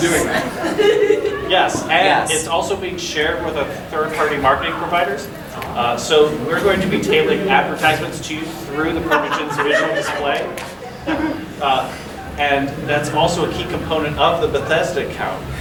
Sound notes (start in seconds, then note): 1.1 audience giggling; 9.7 audience laughing